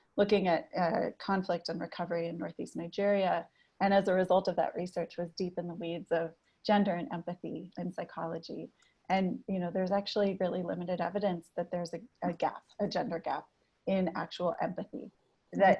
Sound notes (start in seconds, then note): none